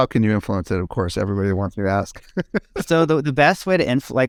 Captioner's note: laughs